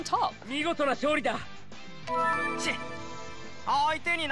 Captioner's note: speaks japanese